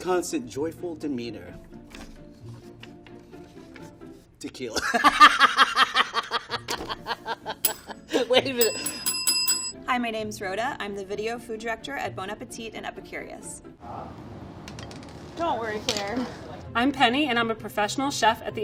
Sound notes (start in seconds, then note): 4.8 laughing; 8.4 bell rings